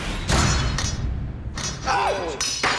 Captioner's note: shout